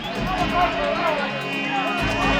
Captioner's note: shouting